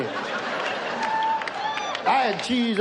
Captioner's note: audience laughs